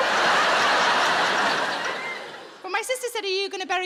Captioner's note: audience laughing